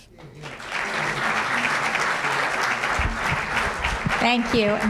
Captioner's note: applause